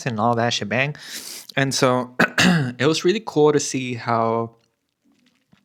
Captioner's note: clears throat